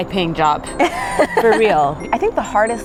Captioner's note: laughing